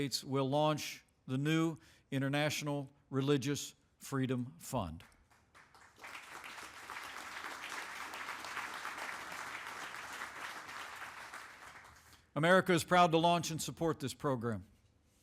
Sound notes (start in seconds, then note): 5.0 applause